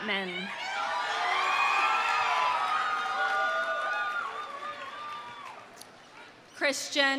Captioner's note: audience cheering; audience applauding